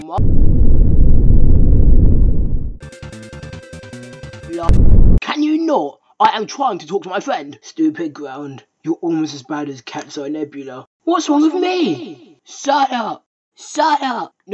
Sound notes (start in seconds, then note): 0.0 ground rumbles even more; 4.6 ground rumbles ever louder